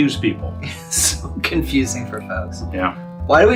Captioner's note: laughs